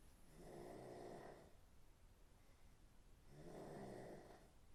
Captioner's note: Phil snoring